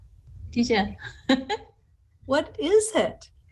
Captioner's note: laughter